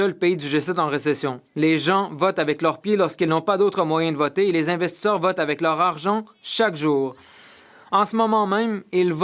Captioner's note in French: voix de l'interprète